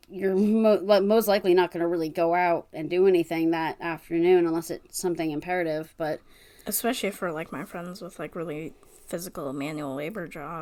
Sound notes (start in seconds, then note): none